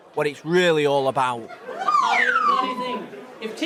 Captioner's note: laughs; alarm blares